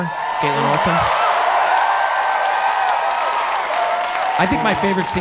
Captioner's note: audience cheering